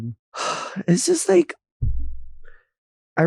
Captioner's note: sighing